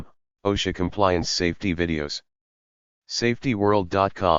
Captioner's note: in Swedish